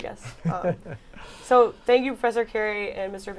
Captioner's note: laughter